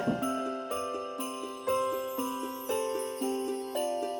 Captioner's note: sleigh bells